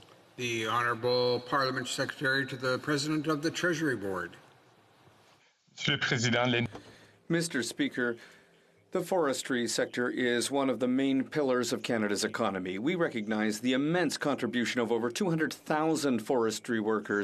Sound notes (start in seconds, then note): 10.1 speaking French